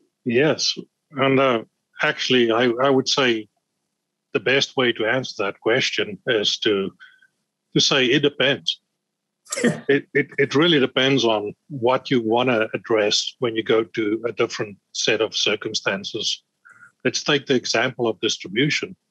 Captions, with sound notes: >> Yes, and actually, I would say the best way to answer that question is to say it depends. >> [LAUGH] >> It really depends on what you wanna address when you go to a different set of circumstances. Let's take the example of distribution.